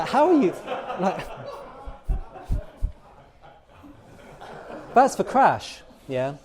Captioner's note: laughter